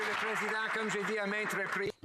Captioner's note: some Applause